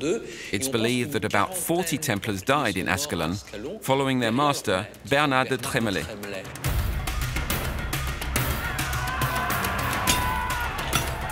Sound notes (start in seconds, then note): 5.3 tense instrumental; 8.8 shouting